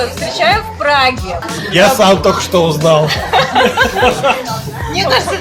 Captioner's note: laughing